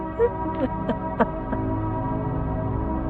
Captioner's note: Corrine sobbing